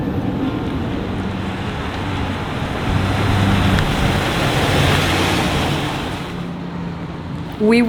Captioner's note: vehicle sounds